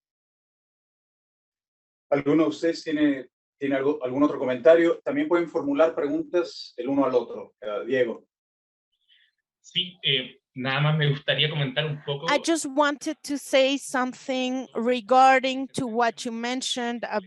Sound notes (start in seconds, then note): 2.7 speaking Spanish; 10.8 speaking Spanish